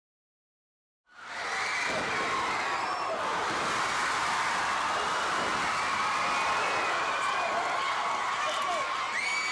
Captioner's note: crowd cheering